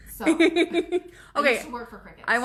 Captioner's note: laughs